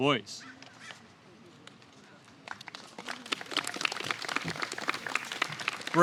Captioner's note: applause